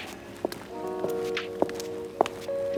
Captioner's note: heels clacking; gentle music